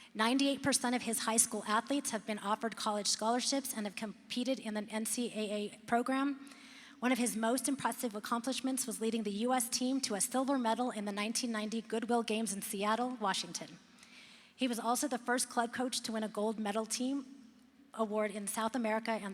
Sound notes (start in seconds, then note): none